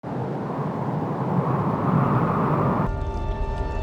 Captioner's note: wind blowing; spooky music